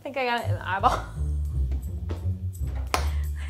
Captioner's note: laughs